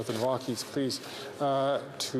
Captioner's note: off mic